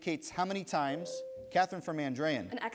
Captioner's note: bell rings